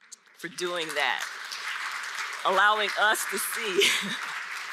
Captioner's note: audience applauds